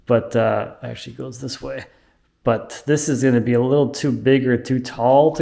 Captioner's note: none